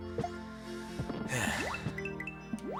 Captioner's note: sigh